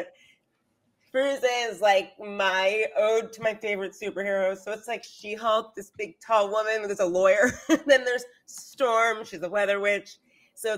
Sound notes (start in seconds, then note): 7.5 laughs